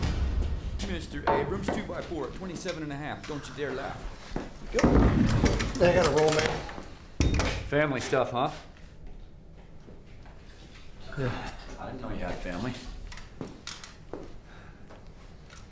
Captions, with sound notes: - Mr. Abrams, two by four, 27 and a half. Don't you dare laugh. (nail gun firing) - I've gotta roll, man. - Family stuff, huh? - Yeah. - I didn't know you had family.